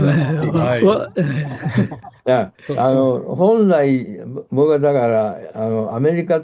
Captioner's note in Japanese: 笑い